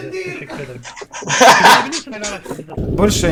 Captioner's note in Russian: Смех